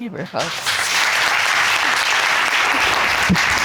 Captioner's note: audience applauding